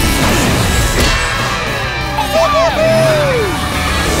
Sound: cheering

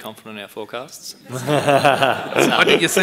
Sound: laughing

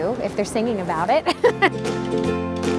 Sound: upbeat music; laughing

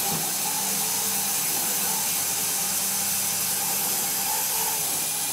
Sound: saw blade whirring continues

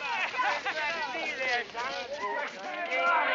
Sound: soldiers cheering

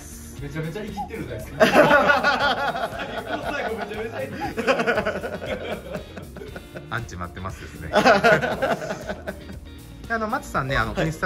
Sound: laughter

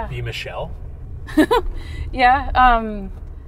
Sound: laughing

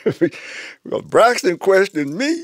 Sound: laughs

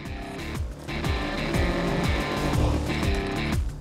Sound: news on TV

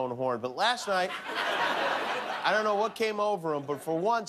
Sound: laughter

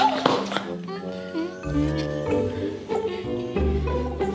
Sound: soft music; hums

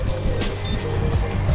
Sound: beep

